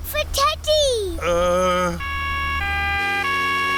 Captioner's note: siren wailing